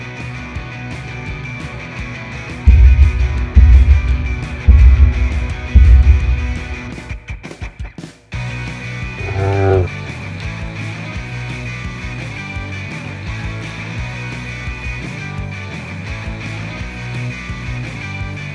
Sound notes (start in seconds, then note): 2.7 thudding; 4.2 fast-paced rock music; 9.1 dinosaur groan; 10.5 fast paced rock music